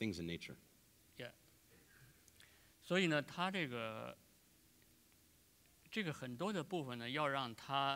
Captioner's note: speaking in Chinese